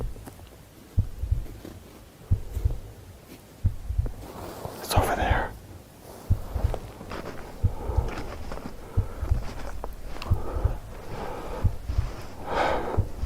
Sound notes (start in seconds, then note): 0.9 Latidos del corazón; 7.6 nieve crujiendo